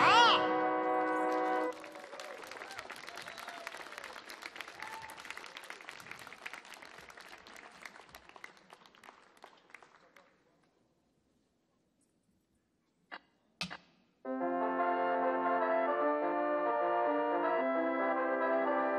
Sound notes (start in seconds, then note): 0.0 audience cheering; 0.3 audience clapping; 14.4 light music